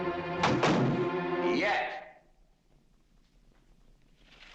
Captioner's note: door banging shut